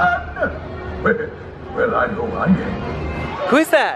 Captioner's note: laughs